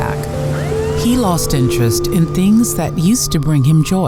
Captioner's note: siren wailing